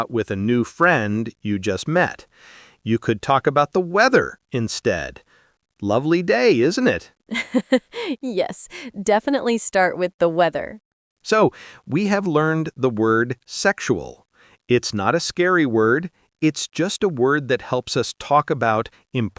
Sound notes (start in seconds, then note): 7.3 laughs